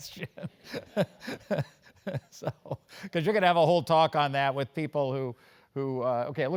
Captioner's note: laugh